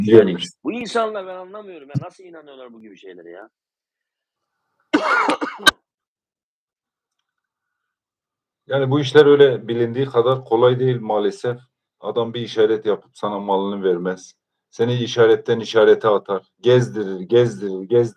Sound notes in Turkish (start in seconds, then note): 4.9 öksürme